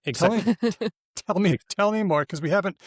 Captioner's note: laughs